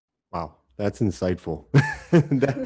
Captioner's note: chuckles